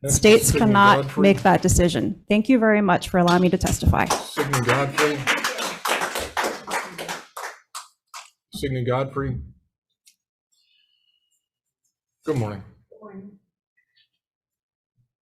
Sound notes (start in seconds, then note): 4.0 audience applauds